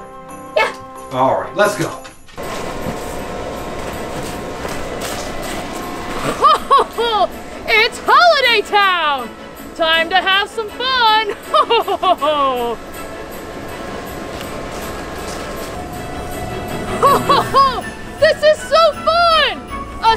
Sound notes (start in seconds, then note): 2.3 footsteps pattering